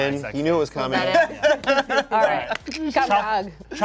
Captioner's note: laughs